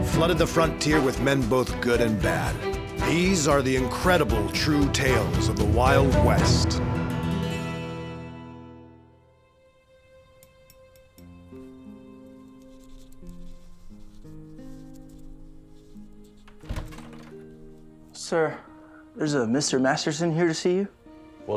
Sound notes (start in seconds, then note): 16.4 door opens